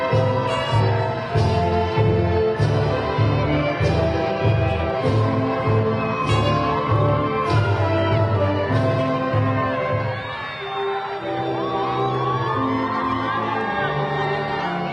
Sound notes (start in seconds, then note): 5.2 graduation music continues; 10.2 crowd cheering